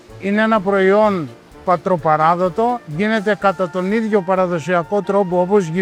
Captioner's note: speaking in foreign language